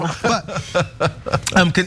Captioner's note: laugh